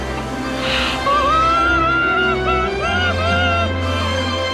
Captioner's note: screaming